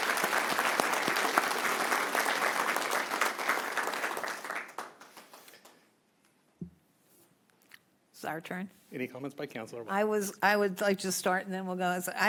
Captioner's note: applause